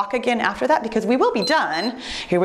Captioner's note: timer beeps